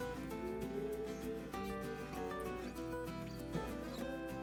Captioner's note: dogs begin to howl